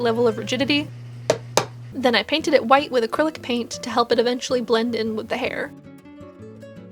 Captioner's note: tap tap